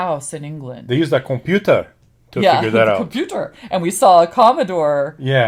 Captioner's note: silly accent